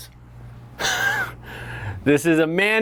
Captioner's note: chuckles loudly